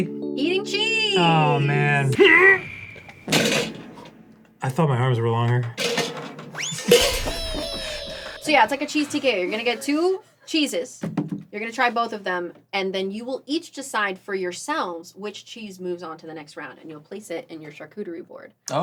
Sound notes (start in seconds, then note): 1.3 dan, powerfully grunting; 3.2 tin jiggles a little; 5.9 metal scraping against table; 7.0 clatter